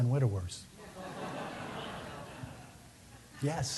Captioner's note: laughs